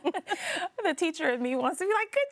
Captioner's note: both laughing